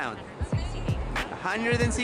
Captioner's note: people talking